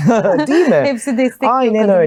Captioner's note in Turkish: kahkaha